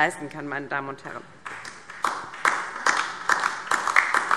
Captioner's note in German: Beifall DIE LINKE